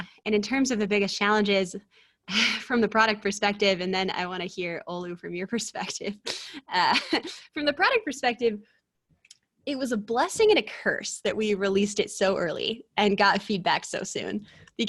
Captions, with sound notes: And in terms of the biggest challenges, from the product perspective, and then I wanna hear, Olu, from your perspective. (chuckles) From the product perspective, it was a blessing and a curse that we released it so early, and got feedback so soon.